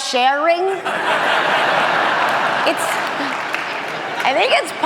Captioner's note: audience laughing